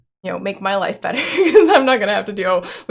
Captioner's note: laughs